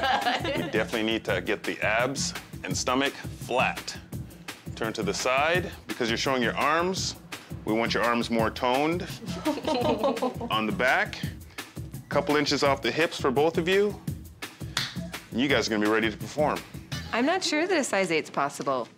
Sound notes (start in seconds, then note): 0.0 chuckles; 9.0 both chuckle